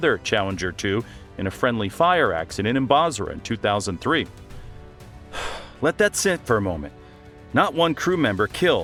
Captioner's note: exhales